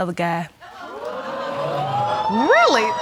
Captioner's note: audience exclaiming